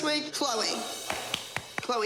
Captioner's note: applause